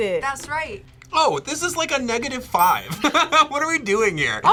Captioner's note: laughs